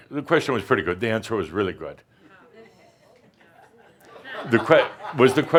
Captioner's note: a few chuckles